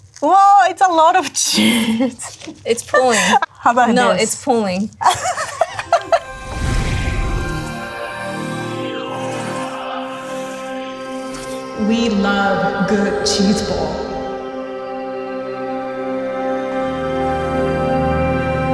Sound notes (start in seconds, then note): 4.9 laughs; 8.2 cosmic music; 12.5 echoing